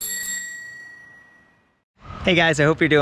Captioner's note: bell rings